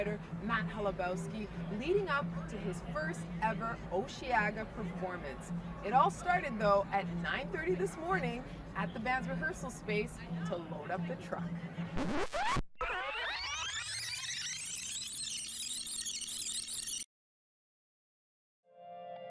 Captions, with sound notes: with Quebec singer-songwriter Matt Holubowski leading up to his first ever Osheaga performance. It all started though at 9:30 this morning at the band's rehearsal space to load up the truck. [record scratches, tape rewinds]